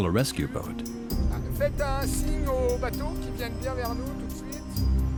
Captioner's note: speaking French